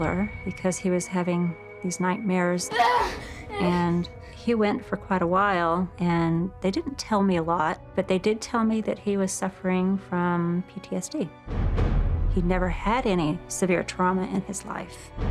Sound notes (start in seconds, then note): 2.7 gasps, pants